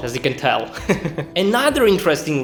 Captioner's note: laughs